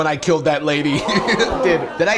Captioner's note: crowd gasps